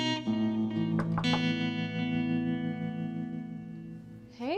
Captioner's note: slow music continues; doctor knocks